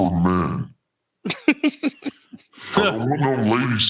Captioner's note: laughing